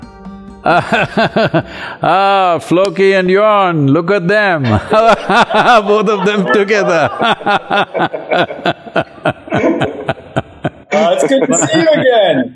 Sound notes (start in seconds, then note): 0.6 laughs; 9.7 laughter